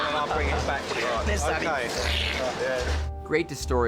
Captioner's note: imitates Splashing